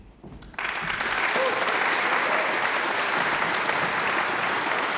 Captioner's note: audience applauds